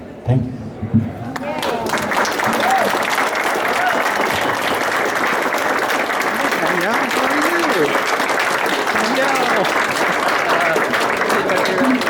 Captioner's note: applause